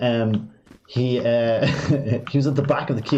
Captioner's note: laughs